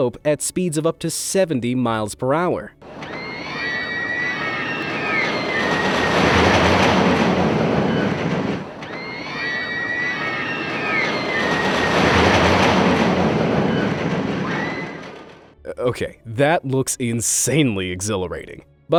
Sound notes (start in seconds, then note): 2.9 riders screaming